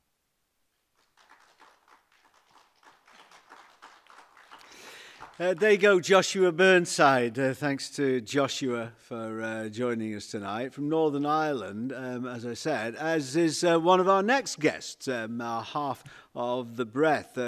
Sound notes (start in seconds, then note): 0.9 applause